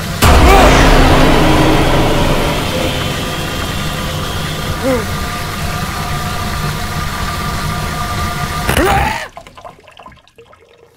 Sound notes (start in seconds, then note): 0.1 ominous music; 4.8 Frank sighs; 8.5 Frank screams; 9.1 water dripping